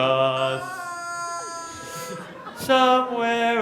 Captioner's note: rubber chicken squawks